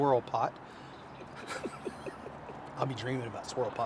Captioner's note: laughing